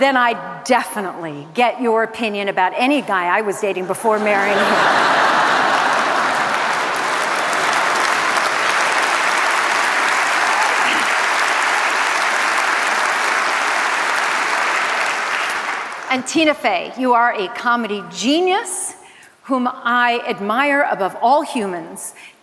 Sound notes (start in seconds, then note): 5.7 laughter, applause